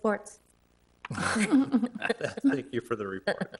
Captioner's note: people laughing